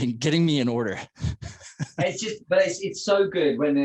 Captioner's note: both laugh